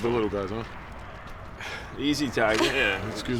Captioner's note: chuckles